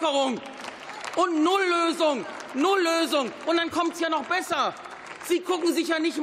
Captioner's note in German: Beifall